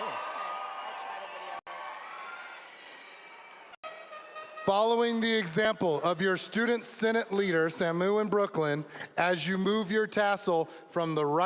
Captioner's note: cheers and applause